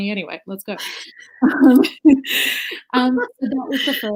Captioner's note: laughs